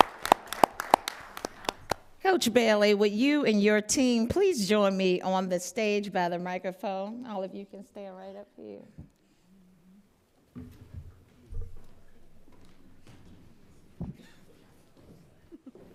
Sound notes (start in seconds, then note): 0.0 applause